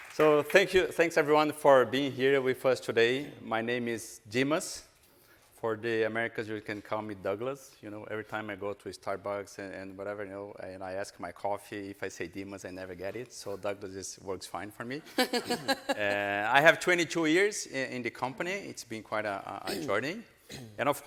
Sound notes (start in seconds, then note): 15.2 audience laughing